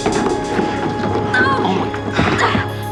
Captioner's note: erica grunts